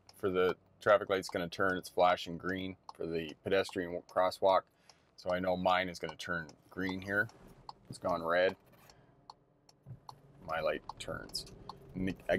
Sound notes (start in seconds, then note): 9.6 car signal clicking